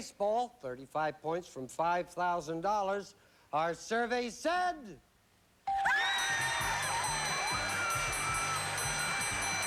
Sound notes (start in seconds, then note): 6.1 applause